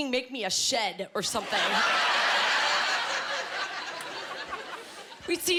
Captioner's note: laughing